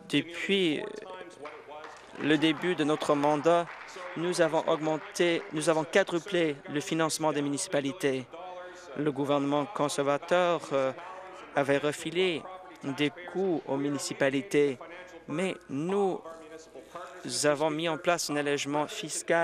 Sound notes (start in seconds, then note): 7.1 applause